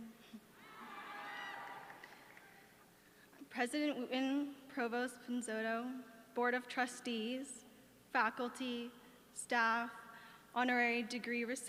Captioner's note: applause